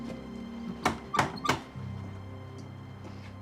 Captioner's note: knocking